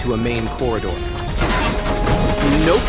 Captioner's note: roof collapsing